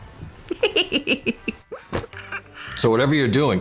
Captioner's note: giggling